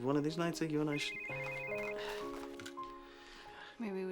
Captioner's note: cell phone rings